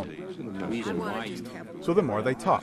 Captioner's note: senators talking